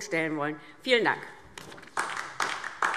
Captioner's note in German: Beifall DIE LINKE